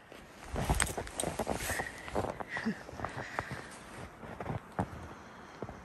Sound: laughs and crunching snow sound

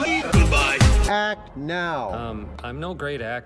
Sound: flatly

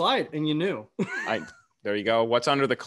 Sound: chuckles

